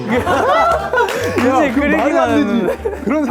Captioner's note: giggling